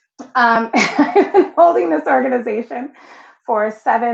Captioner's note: laughing